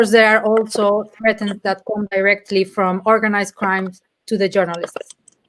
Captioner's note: speaking in Spanish